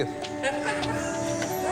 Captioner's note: laughing